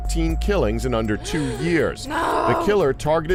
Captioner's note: gasps